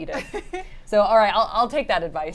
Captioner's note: laughs